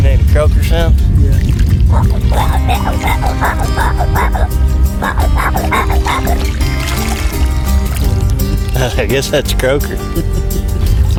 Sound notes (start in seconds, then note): 2.3 makes croaker sounds; 8.7 laughs